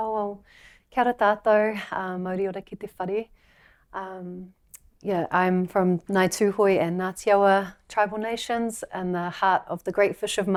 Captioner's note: speaking her language